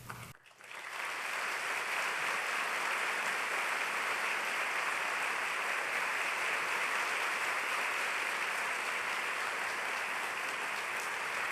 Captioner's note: applause